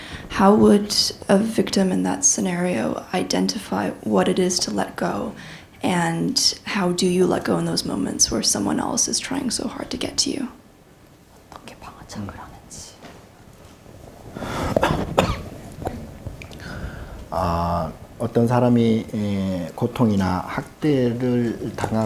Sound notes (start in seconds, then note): 12.3 interpreter whispering Korean; 18.4 speaking Korean